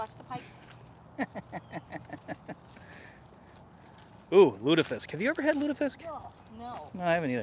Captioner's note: laughter